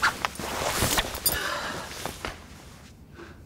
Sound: zipper noise

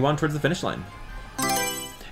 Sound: Mario Selection Sound

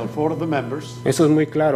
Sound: speaking foreign language

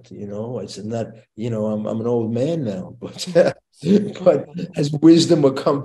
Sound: chuckles

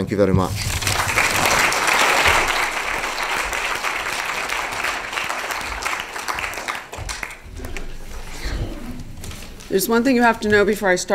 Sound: applause

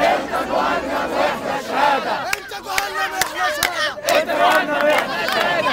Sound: chants

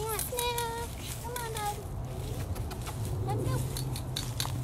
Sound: leaves crackling

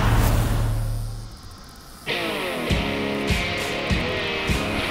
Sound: insect stridulation; instrumental country music playing

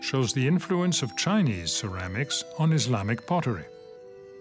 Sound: speaks French

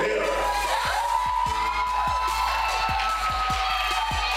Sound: crowd cheering

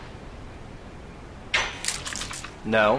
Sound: squirting with water bottle

